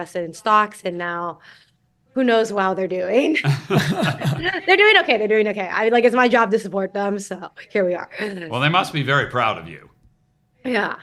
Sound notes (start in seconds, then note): 3.4 laughter